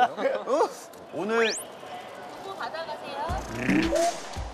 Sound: Swish

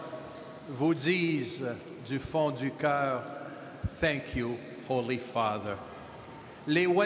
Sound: speaking French

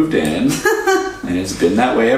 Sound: laughs

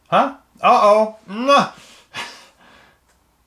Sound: grunts

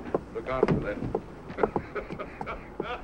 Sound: laughs

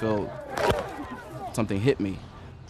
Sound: smack

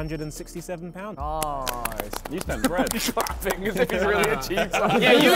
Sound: men clapping

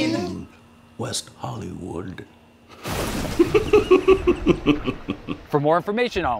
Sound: menacing laugh

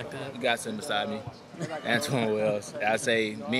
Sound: and Interviewer laughing

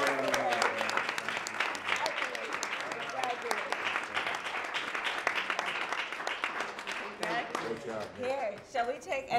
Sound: applause

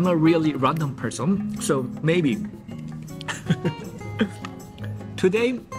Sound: chuckles

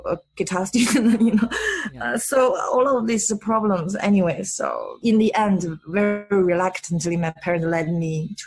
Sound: laughs

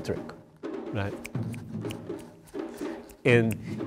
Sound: snaps fingers

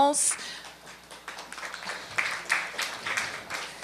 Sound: applause

